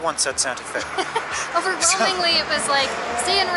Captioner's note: laughs